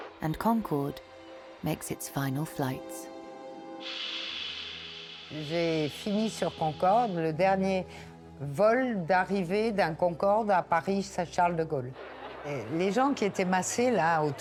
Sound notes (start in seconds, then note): 3.7 tense pensive music; 3.8 aeroplane whooshing; 5.6 speaking French